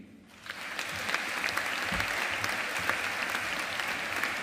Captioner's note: audience applauding